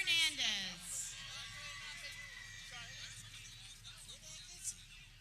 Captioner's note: people cheering